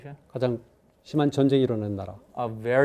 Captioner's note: speaking in Korean